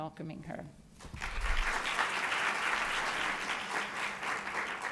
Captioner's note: applause